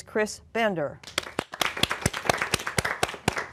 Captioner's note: applause